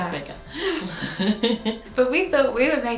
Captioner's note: both chuckle